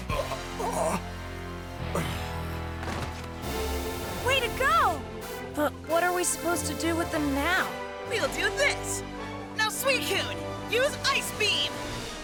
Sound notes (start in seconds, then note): 1.8 sighs